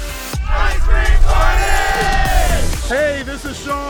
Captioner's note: crowd